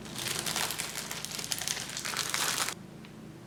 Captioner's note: rustling